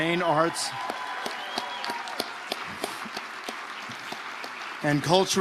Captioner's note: audience applauding